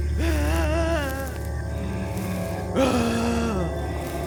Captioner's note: wailing